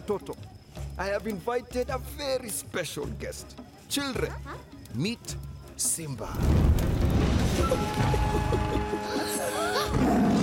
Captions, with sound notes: I have invited a very special guest. - Huh? - Children, meet Simba. (Babu giggles) (gasps) (roars)